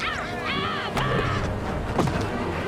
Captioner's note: thuds